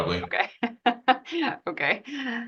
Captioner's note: laughs